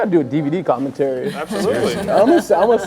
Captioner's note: person laughs